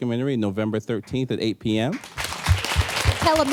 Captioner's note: applause